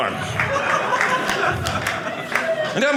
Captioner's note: audience laughing